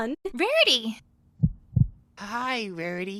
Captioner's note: Spike's Heart Beating